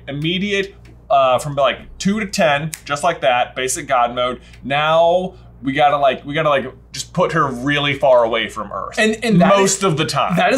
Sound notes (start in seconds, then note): 2.7 snaps fingers